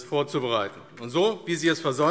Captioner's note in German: Beifall AfD